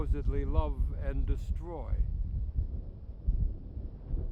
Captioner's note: thunder rumbling